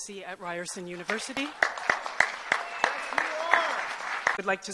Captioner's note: applause